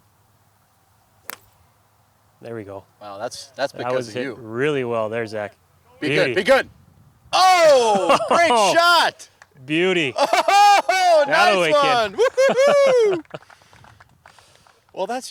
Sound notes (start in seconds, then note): 10.1 exclamations of excitement; 12.0 clapping